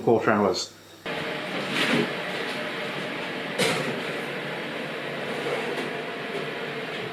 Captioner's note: oven roaring like a furnace